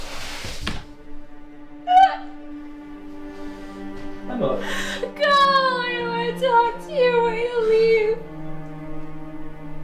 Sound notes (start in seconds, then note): 1.9 emma sobs louder